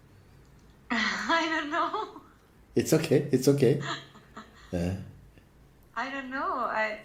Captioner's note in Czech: smích